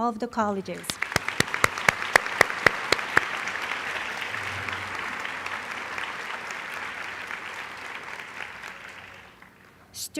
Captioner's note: applause